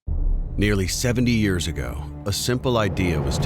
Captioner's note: voiceover